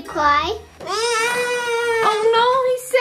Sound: baby crying

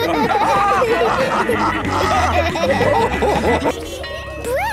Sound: all laughing; bell ringing

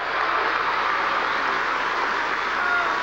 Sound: applause

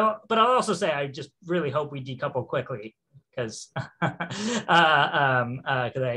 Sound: chuckles

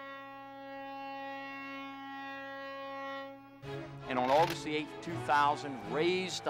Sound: horn bellowing

